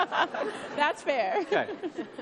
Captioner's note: laughs